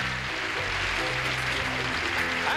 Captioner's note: applause